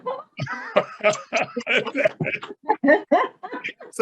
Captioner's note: laughs